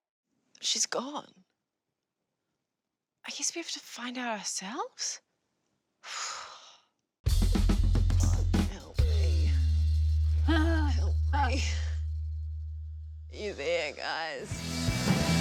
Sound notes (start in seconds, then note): 5.6 sighs; 7.2 drums rolling; 10.4 grunting